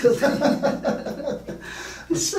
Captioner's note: laughing